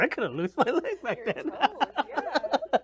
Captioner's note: laughs